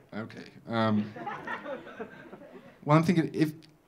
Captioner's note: audience laughing